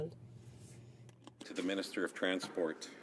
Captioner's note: speaking French